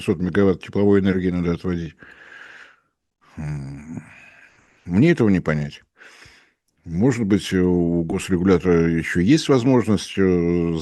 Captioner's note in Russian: вздыхает